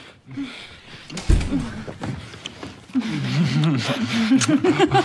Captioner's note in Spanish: Gemidos